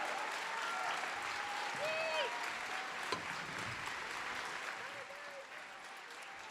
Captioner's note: applause